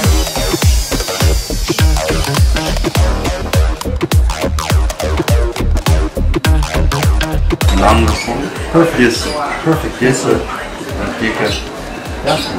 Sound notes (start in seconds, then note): 8.0 speaks Chinese